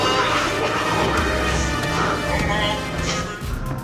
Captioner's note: snake hissing